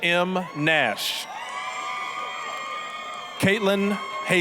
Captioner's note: applause, cheering